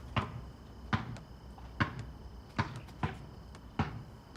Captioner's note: ball dribbling